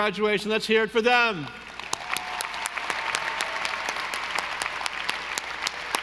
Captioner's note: audience applauding